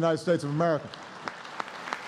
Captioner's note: applause